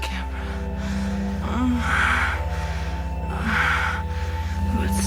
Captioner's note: erotic moaning